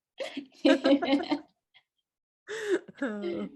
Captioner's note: laughs